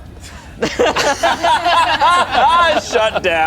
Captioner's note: group laughs